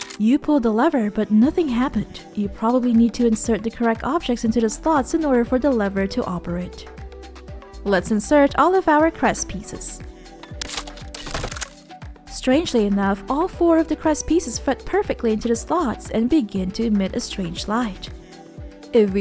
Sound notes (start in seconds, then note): 10.6 snap!